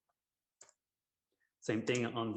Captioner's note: mouse clicks